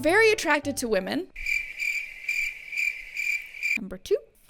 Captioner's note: crickets chirp